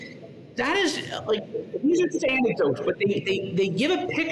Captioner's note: radio interference drowns out speaker